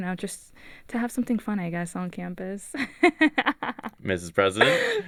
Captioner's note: laughs